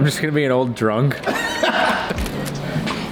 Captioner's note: laughter